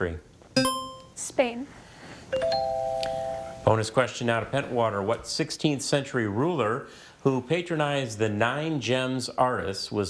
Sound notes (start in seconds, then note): 0.6 buzzer chimes; 2.3 tone chimes